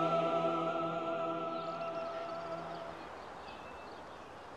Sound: birds chirp

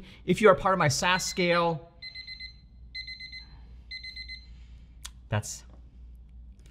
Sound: phone ringing loudly

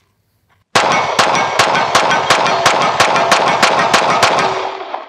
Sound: shots firing

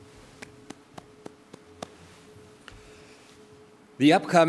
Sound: clapping

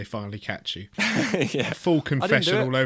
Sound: laughs

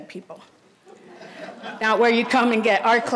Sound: audience laughs

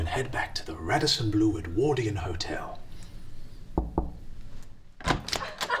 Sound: knocks on door

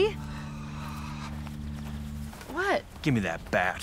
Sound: sighs

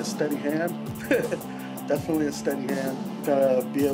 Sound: laugh

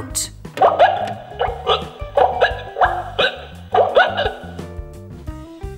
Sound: pooping sounds can be heard coming from the bathroom

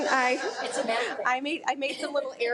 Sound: laughs

